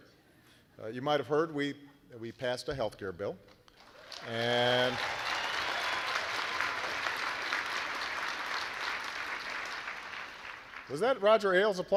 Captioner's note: applause